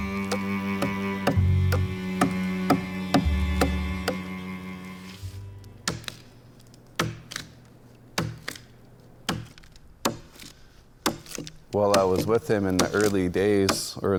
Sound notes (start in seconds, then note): 5.8 wood breaking; 7.0 tool banging